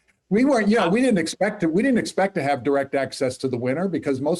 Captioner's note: laughs